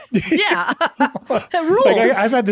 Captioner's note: all laughing